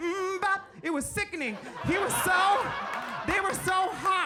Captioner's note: audience laughs